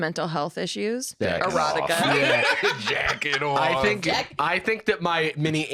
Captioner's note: laughs